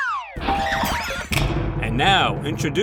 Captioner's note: more hilariously comedic shuffling noises